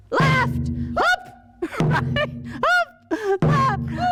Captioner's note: shouts; drums